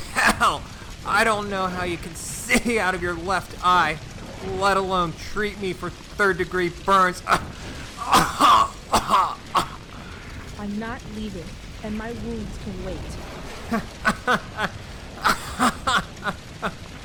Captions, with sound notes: Hell, I don’t know how you can see out of your left eye, let alone treat me for third-degree burns. (more coughing) I’m not leaving, and my wounds can wait. (laughing and coughing)